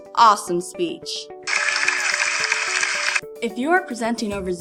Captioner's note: cheering/clapping sound effect thing